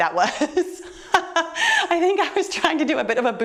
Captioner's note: laughing